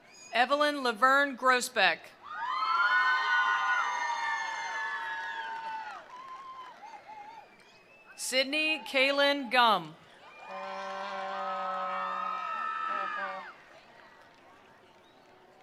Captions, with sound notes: Evelyn Laverne Grossbeck. (attendees applauding) (attendees cheering) Sydney Kaylin Gum. (attendees applauding) (attendees cheering)